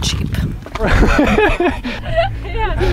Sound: both laughing

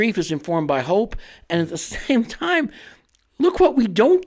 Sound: chuckles

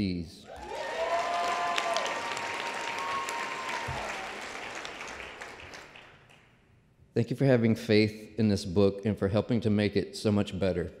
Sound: applause

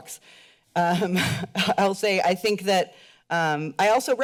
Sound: chuckles

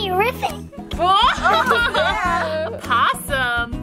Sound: laughs

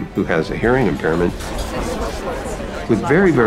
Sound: indistinct chatter

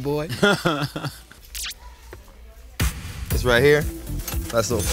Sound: laugh

